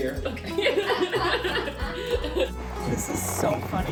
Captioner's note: laughing